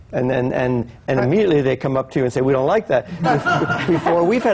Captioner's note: laughter